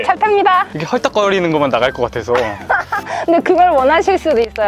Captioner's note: laughter